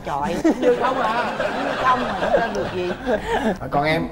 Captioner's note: laughing